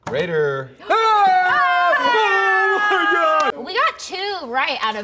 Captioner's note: cheering